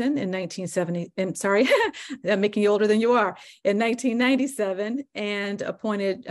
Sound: laughs

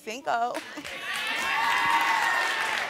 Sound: audience cheering and applauding; laughing

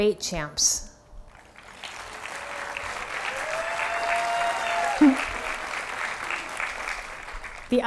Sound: applause

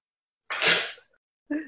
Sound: sniff

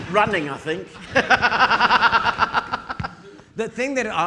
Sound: audience laughing

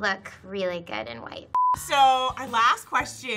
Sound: beep

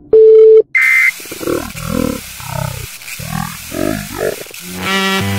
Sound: low gurgling voice

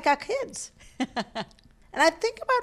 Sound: laughing

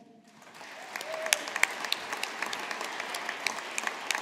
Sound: audience applauding

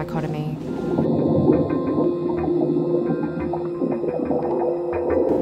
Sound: water bubbling

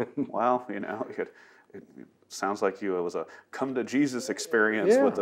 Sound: laughs

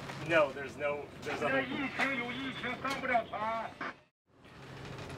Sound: over radio

